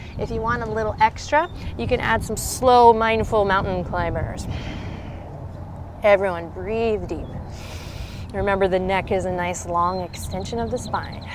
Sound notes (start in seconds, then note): 7.5 takes deep breath